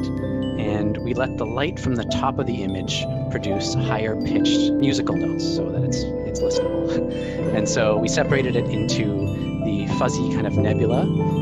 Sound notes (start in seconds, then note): 6.9 laughs